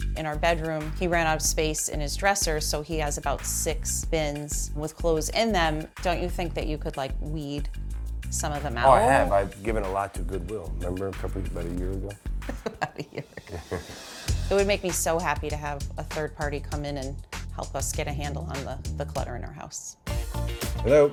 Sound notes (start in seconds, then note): 12.4 laughs